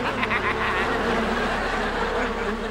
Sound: laughing; buzzing

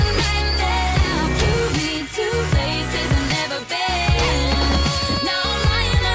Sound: oooh

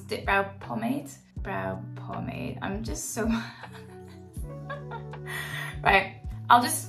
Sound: laughs

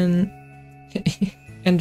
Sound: laughs

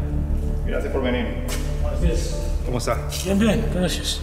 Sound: speaking foreign language

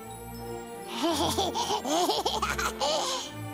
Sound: laughing

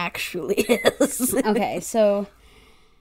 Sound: laughs

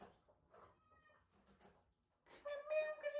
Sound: Lily, meowing

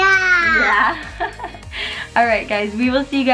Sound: laugh

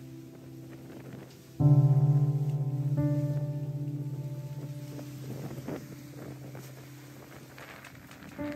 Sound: wind blowing

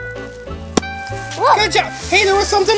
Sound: balloon pops

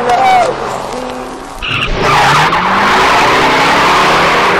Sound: tires screech

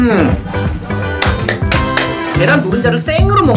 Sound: applause

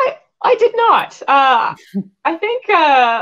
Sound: chuckles

